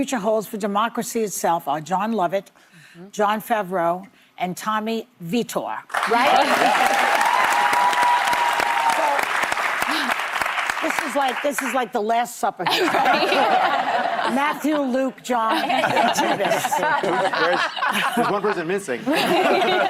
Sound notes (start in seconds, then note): 8.8 applause; 17.8 laughter